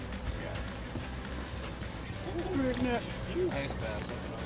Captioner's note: crew chatting